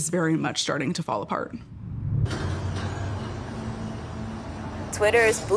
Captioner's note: machinery clanging